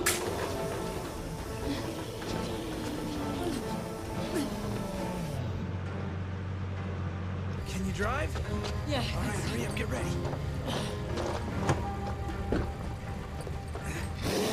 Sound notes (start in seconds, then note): 0.0 gas hissing; 3.5 Jess groaning; 11.7 lively music